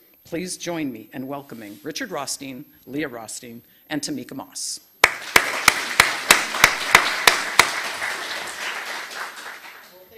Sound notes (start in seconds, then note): 5.0 audience clapping